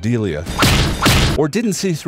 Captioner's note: smack; double smack